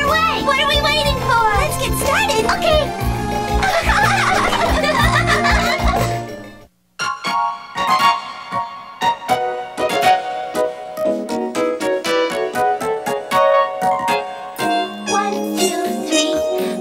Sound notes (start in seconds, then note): 3.6 giggling; 7.1 upbeat instrumental music